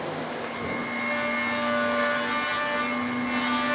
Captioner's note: loud whirring